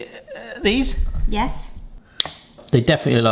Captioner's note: scissors snip